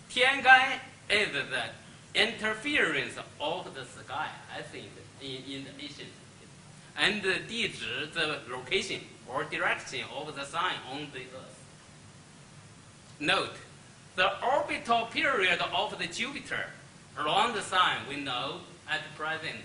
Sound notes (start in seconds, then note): 8.1 speaks Chinese